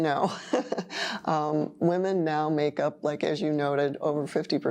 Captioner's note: laughing